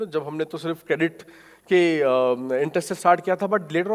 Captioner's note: speaking in foreign language